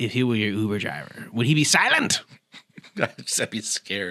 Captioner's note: German accent